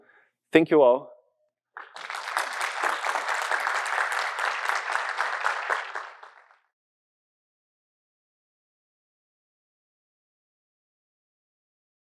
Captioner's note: applause